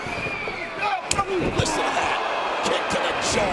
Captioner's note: kick thuds